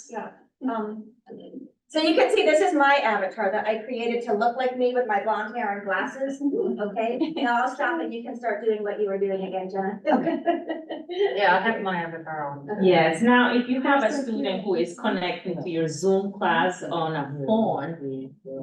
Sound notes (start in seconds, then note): 10.0 laughs